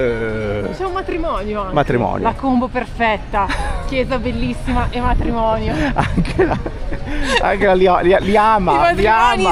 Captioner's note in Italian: risate